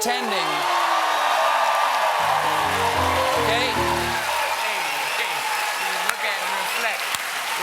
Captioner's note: cheers and applause; piano riff